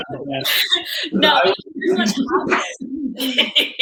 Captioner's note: laughing